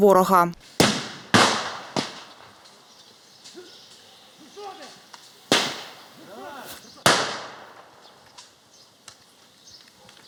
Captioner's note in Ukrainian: стрілянина